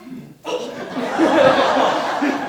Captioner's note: man gagging; audience laughing